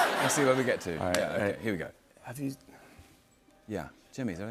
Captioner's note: stammers